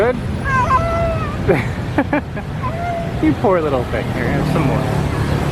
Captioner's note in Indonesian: tertawa